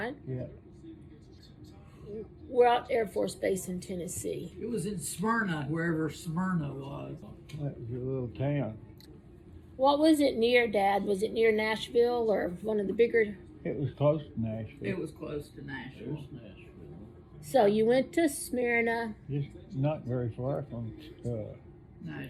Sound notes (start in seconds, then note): none